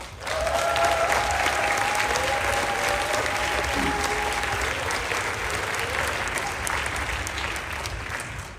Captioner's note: applause, Cheering